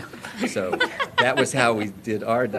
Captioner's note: laughter